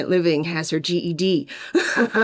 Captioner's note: laughs